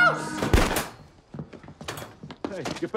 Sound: door bangs

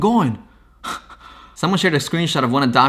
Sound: laughs

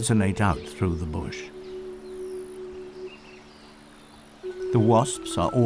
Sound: background chimes

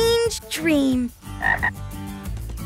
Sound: ribbitting

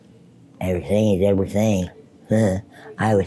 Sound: chuckles

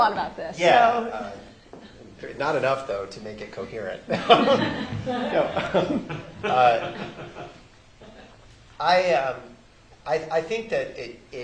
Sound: laughter

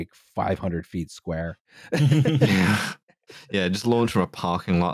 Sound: laughter

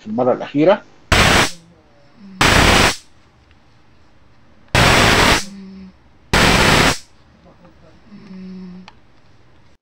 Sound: sound of a lightning bolt

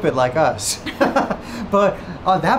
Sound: chuckling

